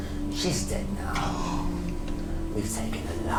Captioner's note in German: schnappt nach Luft